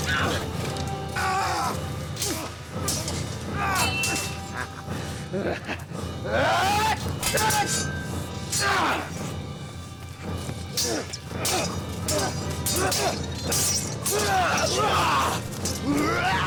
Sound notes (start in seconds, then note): 0.0 yells; 4.4 dark elf laughing; 6.2 dark elf yells; 15.9 dark elf yells